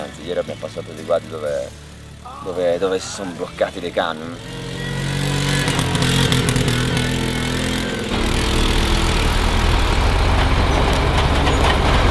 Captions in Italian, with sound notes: Anche ieri abbiamo passato dei guadi dove si sono bloccati dei camion. (suono di motore)